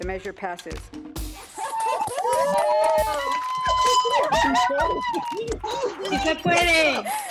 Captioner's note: cheering